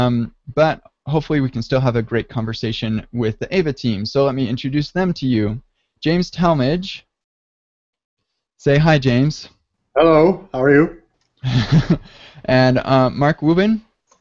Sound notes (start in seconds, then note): 11.4 laughs